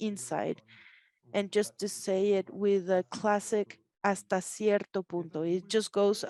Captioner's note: speaks Spanish